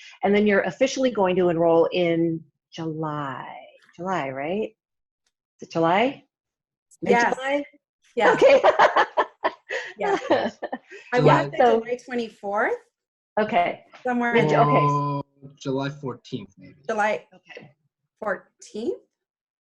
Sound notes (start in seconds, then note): 8.2 laughs loudly